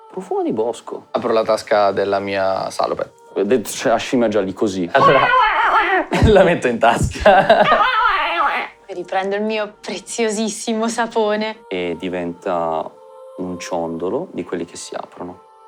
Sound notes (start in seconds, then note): 4.9 chirps excitedly